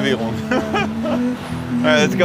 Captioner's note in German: Er lacht